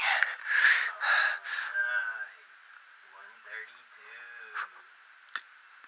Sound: heavy breathing

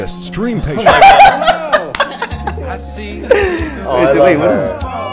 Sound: laughing

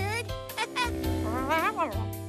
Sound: chuckles

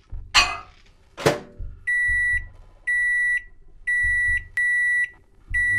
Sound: microwave beeps

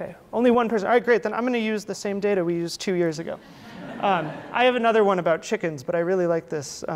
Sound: audience laughter

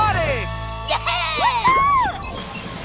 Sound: cheering

